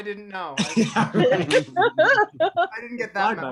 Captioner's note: all laugh